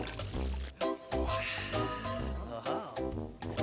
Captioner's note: exclaims